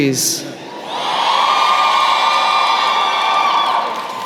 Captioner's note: cheering